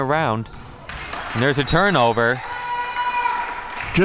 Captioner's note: referee blows whistle